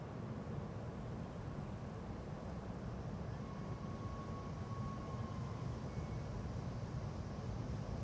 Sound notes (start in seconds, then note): 3.1 insects chirping